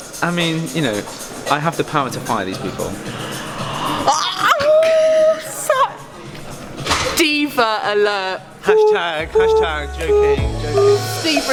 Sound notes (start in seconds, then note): 2.9 gasping